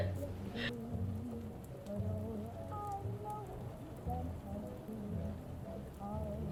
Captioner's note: fire crackling